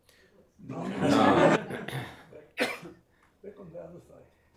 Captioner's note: laughter